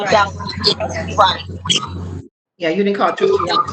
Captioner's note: voices distorting